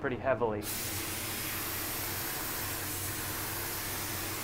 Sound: paint spraying

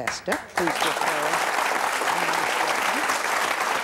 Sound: applause

